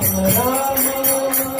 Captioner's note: music and singing; chanting; singing